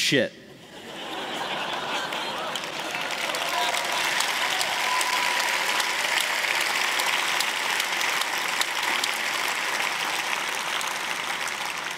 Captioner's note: laughter; applause